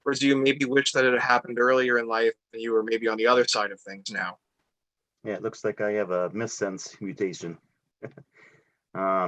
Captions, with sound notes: Or do you maybe wish that it had happened earlier in life, and you were, maybe, on the other side of things now. - Yeah, it looks like I have a missense mutation (laughs).